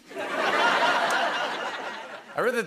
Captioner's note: laughter